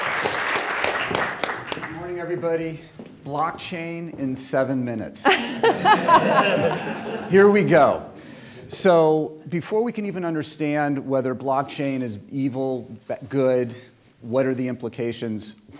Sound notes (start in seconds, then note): 5.2 laughter